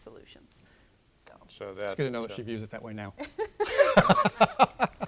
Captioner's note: laughter